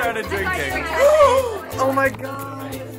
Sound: gasps

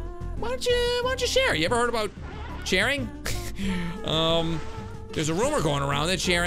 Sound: laughs

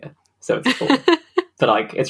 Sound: laughs

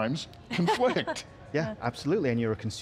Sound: laughs

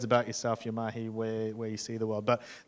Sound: speaking in foreign language

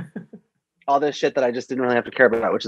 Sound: laughs

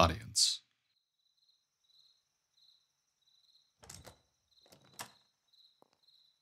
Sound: crickets. a distant heavy wooden door opens and closes

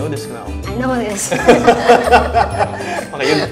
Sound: all laughing

